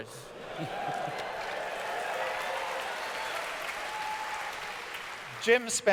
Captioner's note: audience cheers